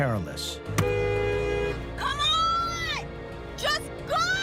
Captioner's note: honking horn